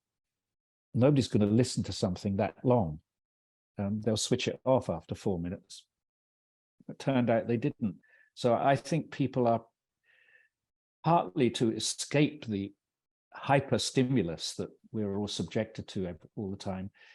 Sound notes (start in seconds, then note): none